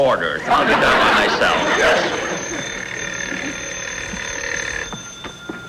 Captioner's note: phone Ringing